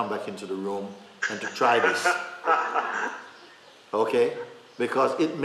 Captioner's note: laughter